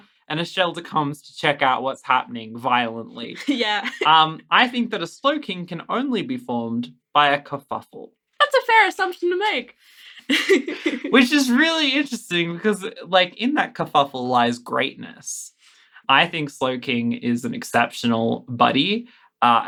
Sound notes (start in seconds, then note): 3.4 laughing; 10.2 laughs